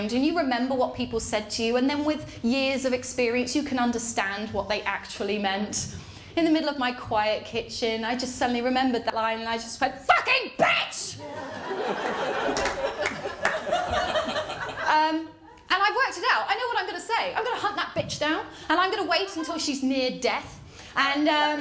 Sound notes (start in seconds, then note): 10.6 shouts; 11.2 laughter